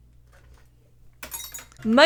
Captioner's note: paint brush clatters against glass